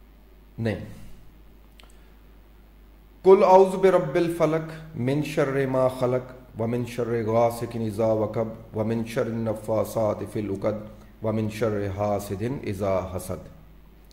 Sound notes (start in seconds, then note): 3.0 reciting surah Falak of Quran